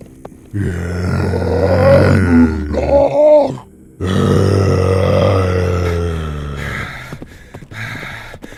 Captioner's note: demons grunting